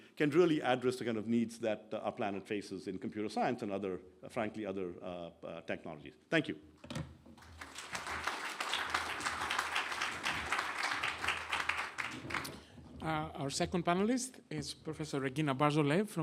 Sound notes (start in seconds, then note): 7.4 clapping